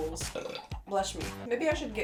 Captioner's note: burp